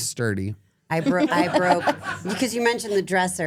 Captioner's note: group laughs